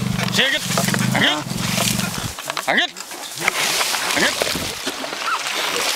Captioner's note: speaking in foreign language; splashing